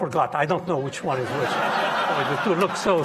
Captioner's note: audience laughing